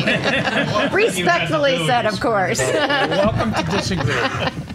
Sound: laughing

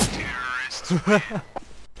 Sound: laughs

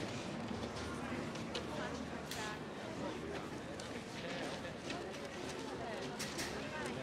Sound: students chattering in background continues

